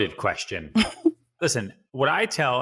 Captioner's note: laughs